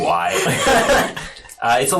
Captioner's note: all laugh